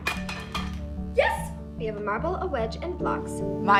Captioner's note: blocks clacking; upbeat music playing